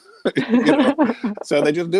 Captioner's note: laughing